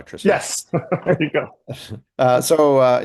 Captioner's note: laughing